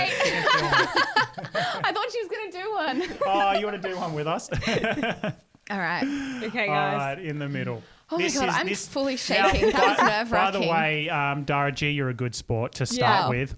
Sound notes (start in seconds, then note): 0.0 laughing together; 4.8 laughing together